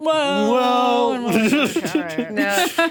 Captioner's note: laughs